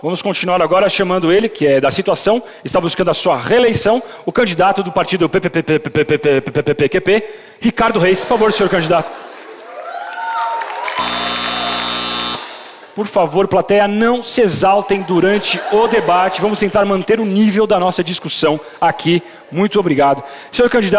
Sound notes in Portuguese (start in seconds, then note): 9.0 aplausos; 10.4 campainha